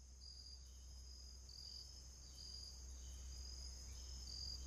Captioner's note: insects chirping